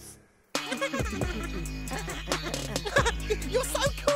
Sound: Merchin laughing

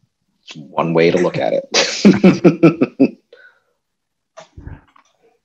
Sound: laughing

